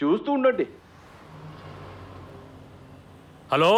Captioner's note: vehicles whooshing